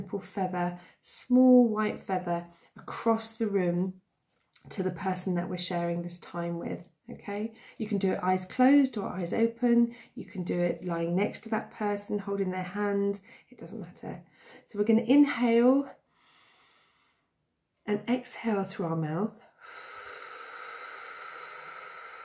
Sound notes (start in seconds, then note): 16.5 inhales; 19.5 exhales